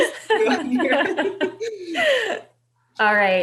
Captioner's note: laughing